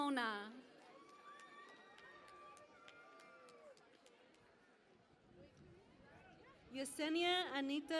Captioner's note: cheering and Applause